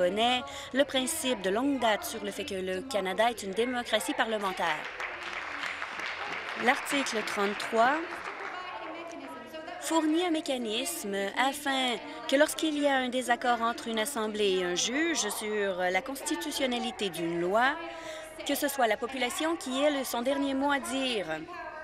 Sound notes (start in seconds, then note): 8.0 applause